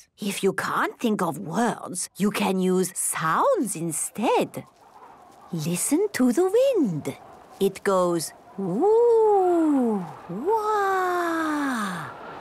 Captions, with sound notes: - If you can't think of words, you can use sounds instead. - (wind blowing) - Listen to the wind... It goes, "Whoooo! Whaaaa!"